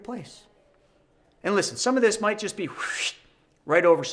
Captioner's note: whistles